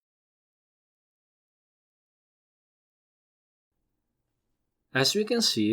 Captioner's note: pause